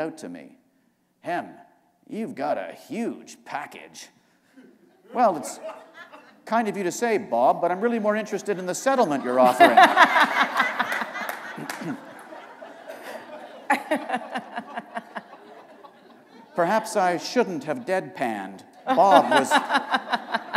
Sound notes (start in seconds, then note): 4.6 laughter; 8.8 laughter